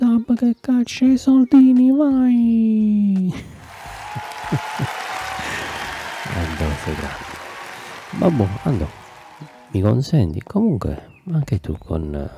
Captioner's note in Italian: Applauso